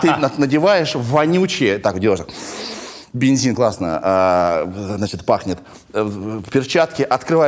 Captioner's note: Dud laughs; sniffs